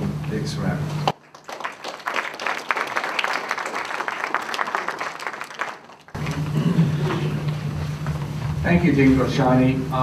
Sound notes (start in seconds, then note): 1.1 applause